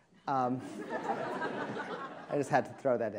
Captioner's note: attendees laughing